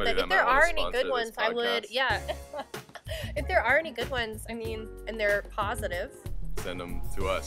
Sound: laughs

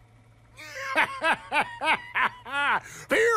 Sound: cackles

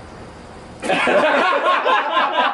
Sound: laughter

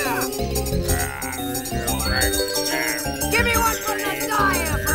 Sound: growling

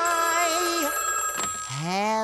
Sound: phone ringing

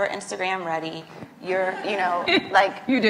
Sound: laughs

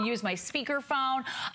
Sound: electronic voice

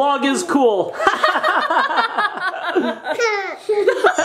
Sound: laughs

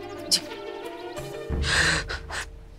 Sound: exhaling

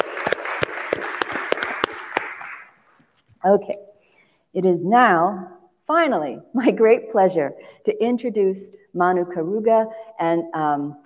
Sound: applause

